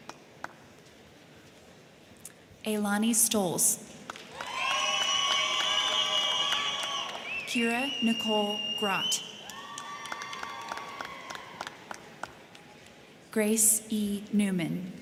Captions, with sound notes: Ylani Stoltz. (crowd cheering) (crowd clapping) Kira Nicole Grott. (crowd cheering) (crowd clapping) Grace E. Neumann.